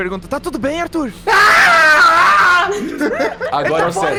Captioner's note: shouts